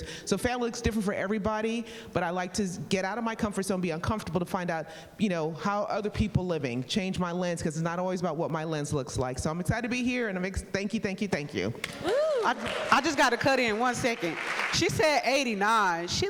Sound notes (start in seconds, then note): 12.0 person exclaiming in excitement